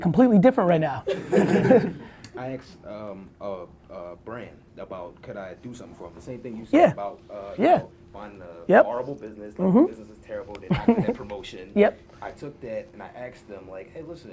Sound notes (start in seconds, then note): 1.0 laughs